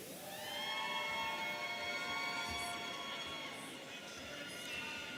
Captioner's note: audience cheering